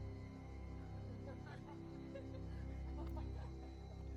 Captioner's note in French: les gens rient